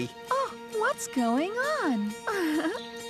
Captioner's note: laughing